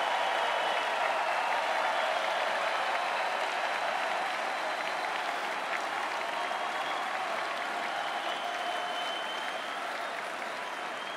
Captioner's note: cheering and Applause